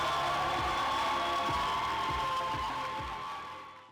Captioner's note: audience cheers and applauds